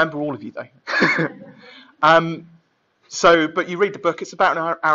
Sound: laughing

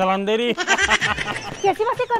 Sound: laughing

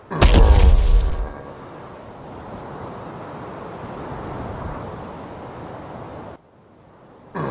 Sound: whooshing noises

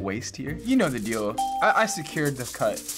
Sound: ding

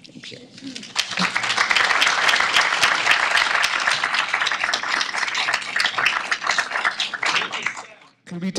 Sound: applause

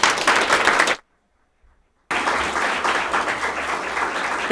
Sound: audience applauding

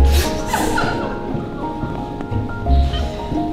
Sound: nuns exchange laughter

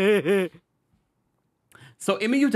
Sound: comical laughing

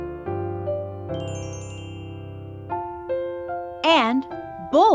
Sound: bell chiming

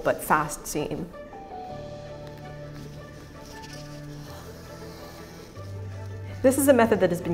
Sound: classical music; fabric rustling

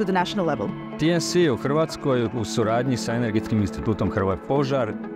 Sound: speaks Croatian

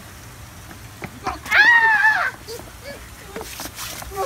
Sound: screams

